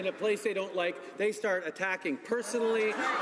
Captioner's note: speaking French